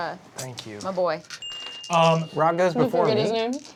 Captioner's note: soft dinging